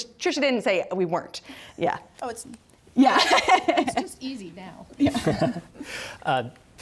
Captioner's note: laughter